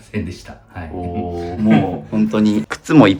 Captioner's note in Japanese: 咳払い